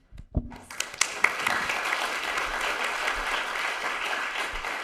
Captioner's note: audience clapping